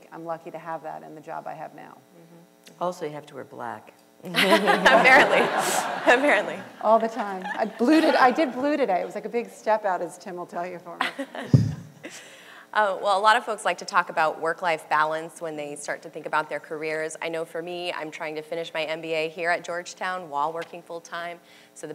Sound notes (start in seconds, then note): 4.4 audience and panel laughter; 11.0 laughs